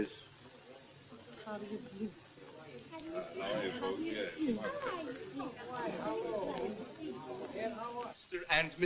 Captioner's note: general chatter